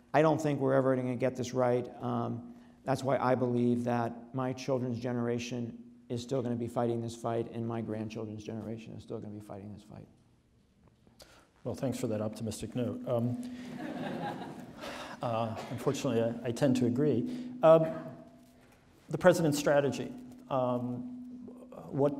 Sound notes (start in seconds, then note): 13.6 audience laughs